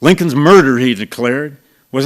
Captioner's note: none